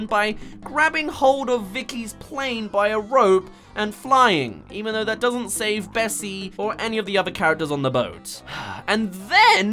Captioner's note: sigh